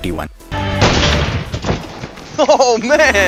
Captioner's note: gun shot